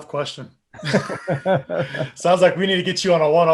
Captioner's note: people laughing